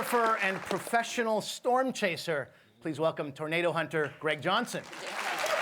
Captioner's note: applause